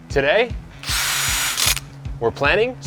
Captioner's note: drill buzzing